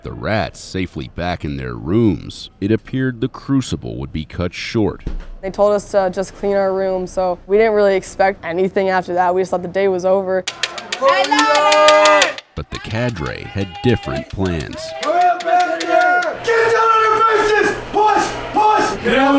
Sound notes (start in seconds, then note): 10.5 knocking; 10.6 cadre yelling; 15.4 cadre yelling